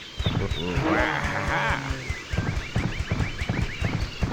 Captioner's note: creepy Wario-sounding "Wah ha hah!"